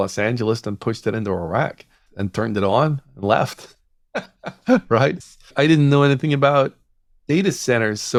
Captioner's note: laughs